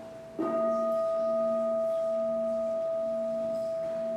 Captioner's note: bell dings